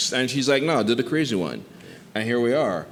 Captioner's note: none